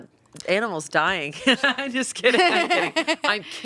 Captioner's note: laughing